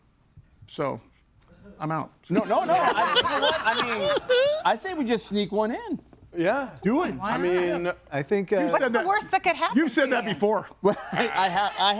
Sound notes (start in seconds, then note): 2.3 group laughs